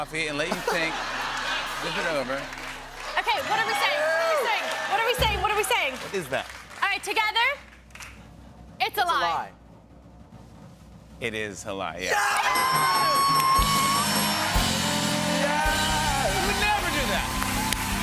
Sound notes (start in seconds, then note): 9.9 drum roll; 12.0 bell dinging; 12.0 cheers and applause